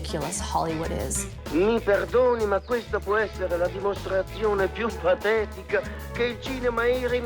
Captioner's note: character speaking foreign language